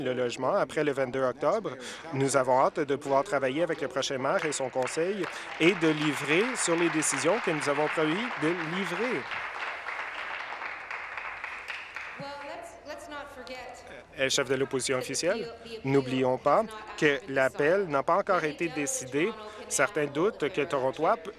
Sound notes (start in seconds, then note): 9.2 applause